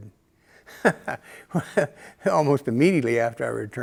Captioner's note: laughter